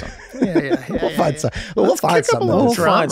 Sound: Rob laughs

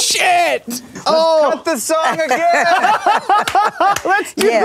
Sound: all laughing

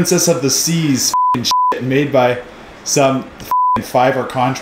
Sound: beep; beep

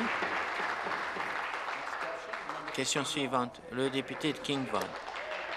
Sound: applause

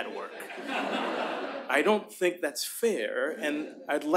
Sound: laughter

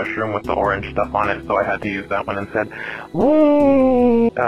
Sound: inhales

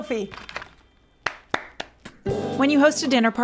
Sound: claps

